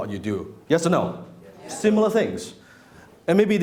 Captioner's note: crowd